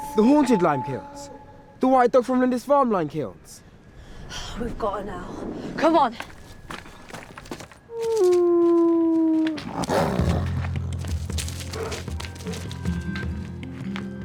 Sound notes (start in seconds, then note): 9.4 howling; 11.1 snarling